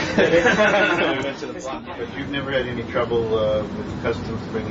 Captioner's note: laughter